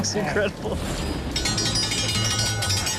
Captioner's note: thunder rumbling